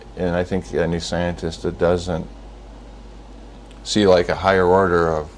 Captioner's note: none